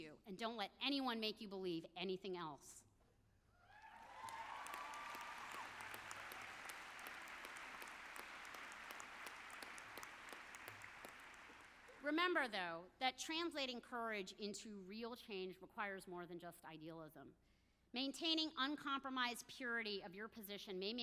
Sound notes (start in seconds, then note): 3.7 audience cheers; 3.8 audience applauds